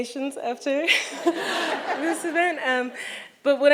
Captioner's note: audience laughs